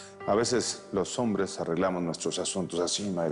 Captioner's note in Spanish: none